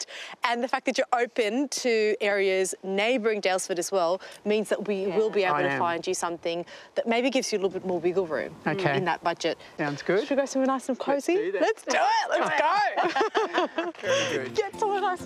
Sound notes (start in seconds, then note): 11.5 laughs; 14.3 laugher